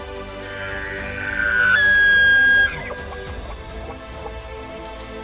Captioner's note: elk cries; epic music